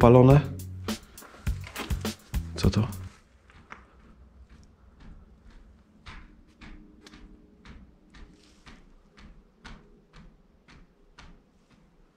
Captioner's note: you can hear clear, measured hitting the shutters